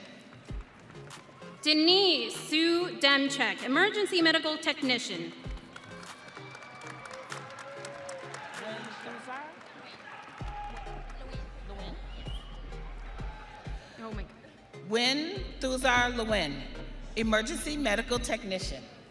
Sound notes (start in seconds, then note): 0.2 audience applauding; 8.9 audience cheering